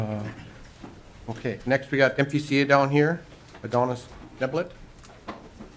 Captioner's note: clearing throat